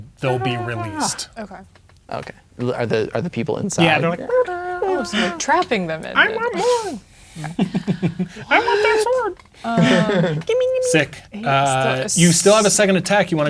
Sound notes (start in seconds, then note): 0.2 imitating screaming; 6.4 silly voice; 7.4 laughing; 8.2 silly voice; 9.7 laughing; 10.5 silly voice